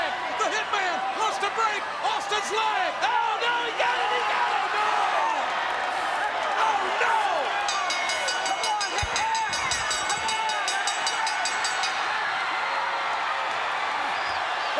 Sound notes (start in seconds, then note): 7.6 bell dinging; 11.1 crowd cheering